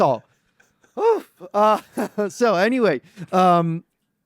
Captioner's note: laughs